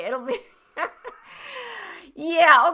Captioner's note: laughing